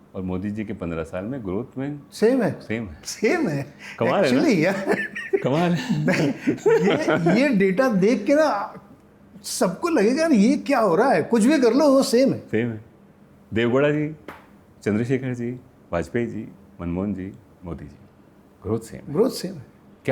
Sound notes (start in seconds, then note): 6.3 laughs